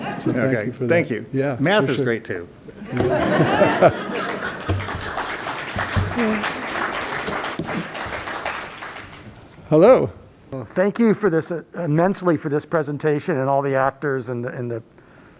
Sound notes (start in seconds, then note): 2.8 laughter; 4.0 applause